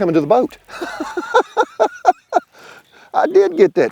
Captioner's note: laughs